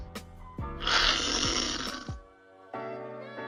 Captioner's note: slurping